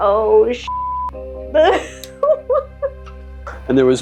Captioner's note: nervous laughter